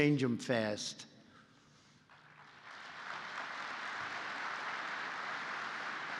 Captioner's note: applause